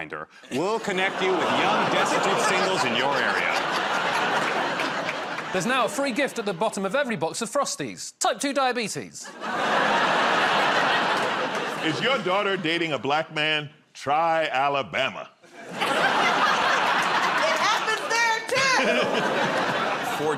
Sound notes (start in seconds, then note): 9.2 laughter; 15.4 laughter